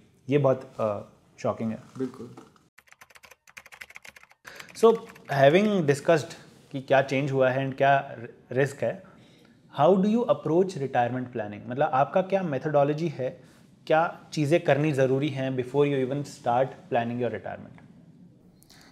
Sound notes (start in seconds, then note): 2.8 typing